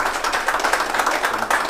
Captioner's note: applause